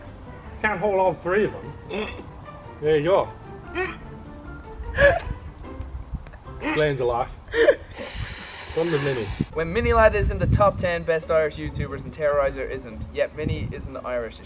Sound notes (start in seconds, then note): 4.9 trying to not laugh